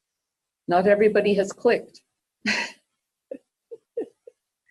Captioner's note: laughs